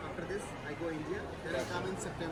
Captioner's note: people chattering